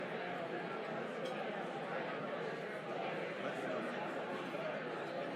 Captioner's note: audience chattering